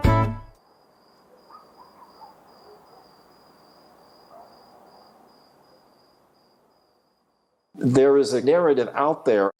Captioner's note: crickets